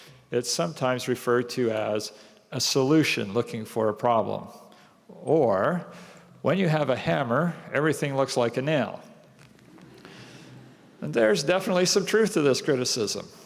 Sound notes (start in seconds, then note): 9.9 laughter